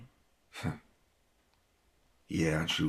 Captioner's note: chuckles